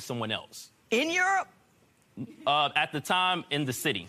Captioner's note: chuckling